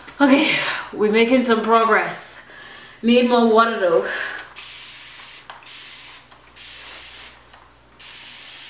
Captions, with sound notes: Okay, we're making some progress. Need more water, though. (water spraying)